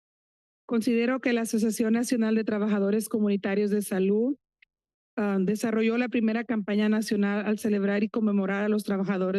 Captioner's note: foreign language